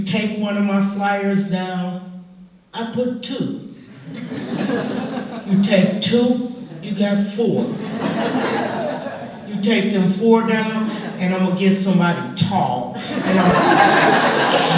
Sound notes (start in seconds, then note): 3.8 laughter; 13.0 laughter